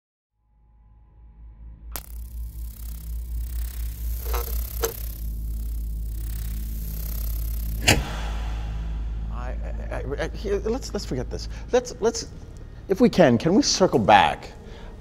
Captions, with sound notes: (tense ominous music) (logo buzzing) (light thudding) - Let's forget this, let's if we can, can we circle back,